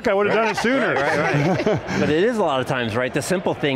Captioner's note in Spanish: risas